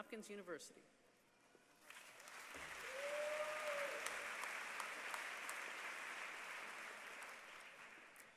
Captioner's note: applause